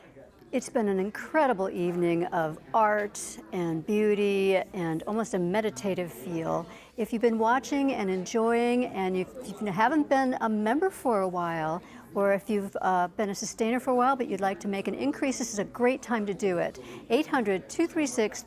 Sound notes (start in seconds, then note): none